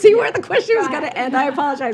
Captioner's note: laughs